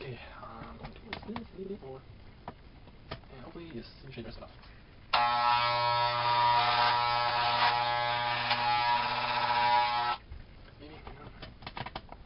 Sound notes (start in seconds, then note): 5.1 hair clippers